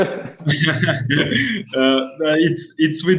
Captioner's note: laughing